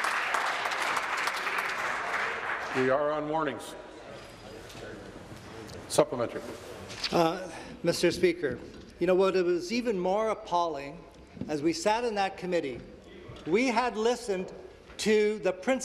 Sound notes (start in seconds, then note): 2.4 applause